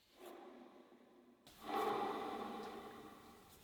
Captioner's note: metal humming